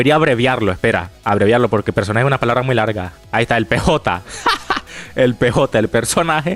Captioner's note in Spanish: risas